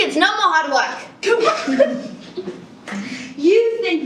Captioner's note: laughs